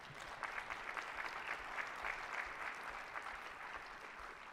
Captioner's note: attendees applauding